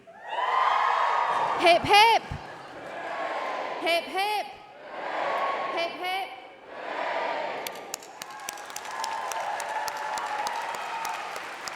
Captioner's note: applause